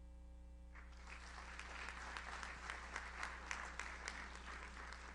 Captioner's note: audience applauds